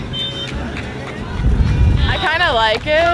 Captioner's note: whistle blowing, clapping; wind blows